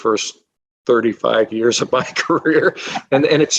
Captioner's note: laughing